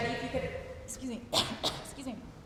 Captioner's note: cough